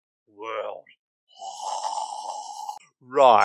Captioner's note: drooling